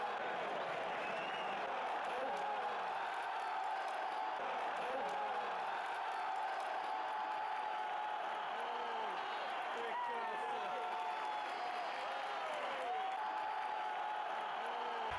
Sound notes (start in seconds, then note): 4.2 cheering; 10.8 cheering